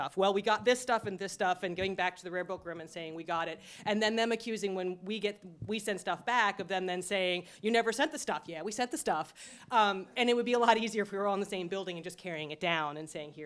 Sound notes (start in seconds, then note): none